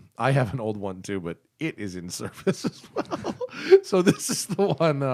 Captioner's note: laughter